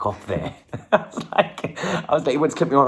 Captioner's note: laughs